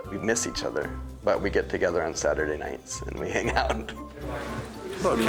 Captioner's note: chuckles